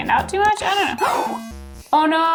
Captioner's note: gasping